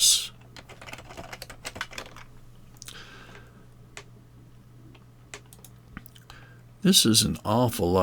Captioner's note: keys clicking